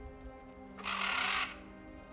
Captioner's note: caw